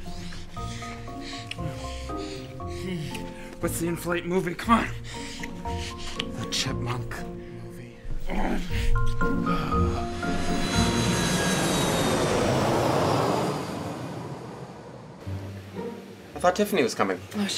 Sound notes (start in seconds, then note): 8.0 groaning; 9.0 plane engine